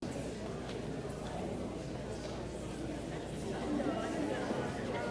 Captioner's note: chatter